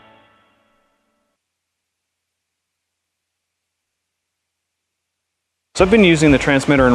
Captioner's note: music stops; silence